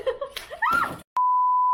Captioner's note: screamimg